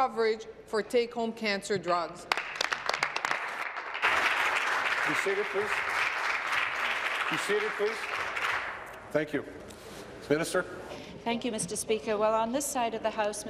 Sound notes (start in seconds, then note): 6.3 applause